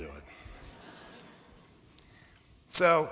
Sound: laughter

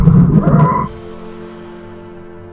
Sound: emma screams underwater; emma exhales

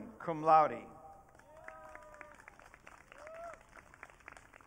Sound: audience cheering

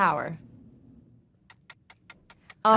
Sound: timer ticking

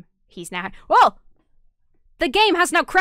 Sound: shouts

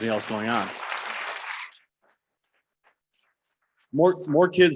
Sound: audience clapping

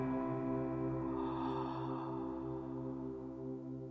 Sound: last breath

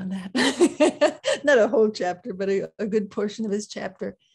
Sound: laughs

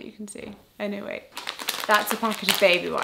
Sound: plastic rustles

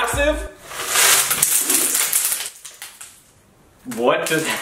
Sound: items sliding

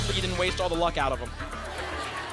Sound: laughter

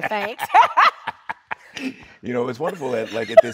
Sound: both laughing

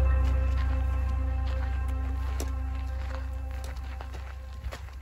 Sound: footsteps crunching

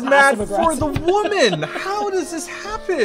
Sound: yelling

